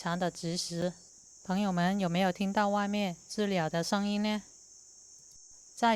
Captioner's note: cicada